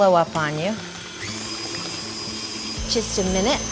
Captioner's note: mixer roars